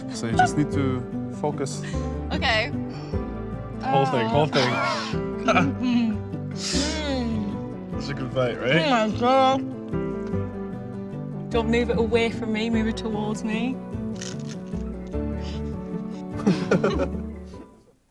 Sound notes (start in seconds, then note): 8.9 mutters; 16.3 laughter